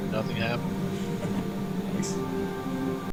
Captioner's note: chuckling